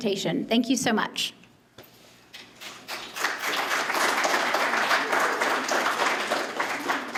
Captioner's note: applause